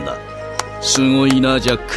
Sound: Cris claps

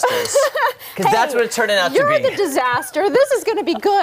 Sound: laughter

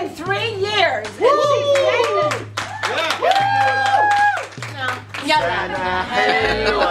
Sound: yelling; clapping

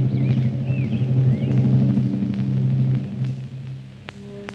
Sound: birds chirping

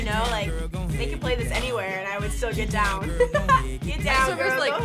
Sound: laughs

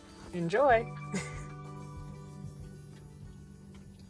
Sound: laughs

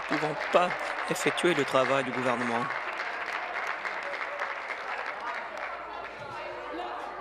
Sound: applause; continued applause

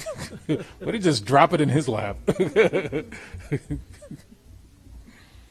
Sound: laughs

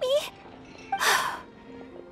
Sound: sigh

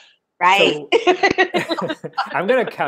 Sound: laughing

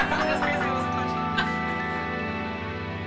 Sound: laughter

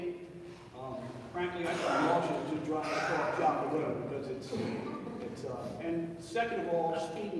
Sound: speech drowned by loud coughing

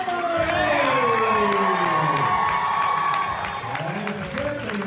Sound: audience cheering

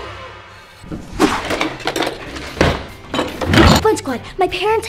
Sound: air whooshing; drawers clanging

